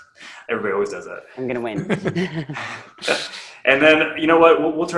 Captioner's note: laughs